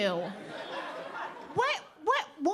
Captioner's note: audience laughing